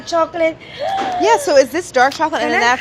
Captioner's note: gasps